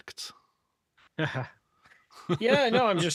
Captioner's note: laughing